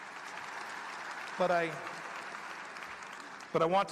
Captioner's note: applause